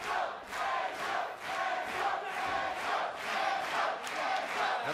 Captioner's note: fans chanting